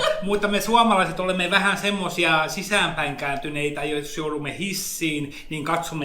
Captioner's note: laughs; speaks in Finnish language